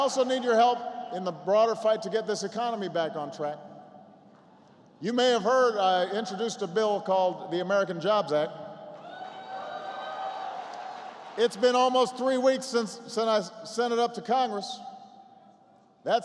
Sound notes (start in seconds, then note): 9.0 applause